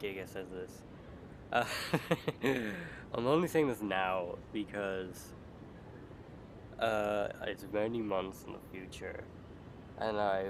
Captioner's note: laugh